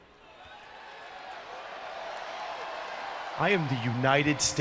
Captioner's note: crowd cheering